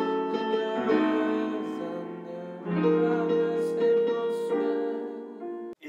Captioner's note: hums